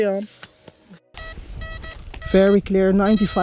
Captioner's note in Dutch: metaaldetector piept